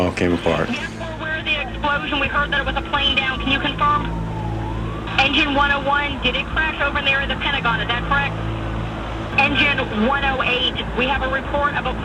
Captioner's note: emergency Radio Chatter